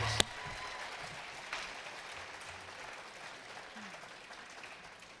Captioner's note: attendees clapping